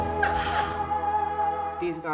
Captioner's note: laughing